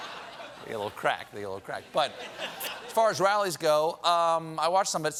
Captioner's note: laughter